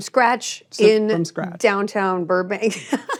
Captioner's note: laughs